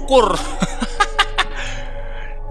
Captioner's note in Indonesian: ketawa